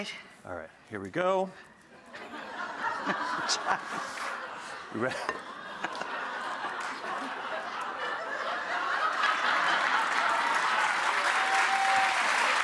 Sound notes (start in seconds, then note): 2.4 audience laughs; 9.6 audience applauds